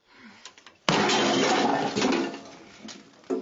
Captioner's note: metal clanging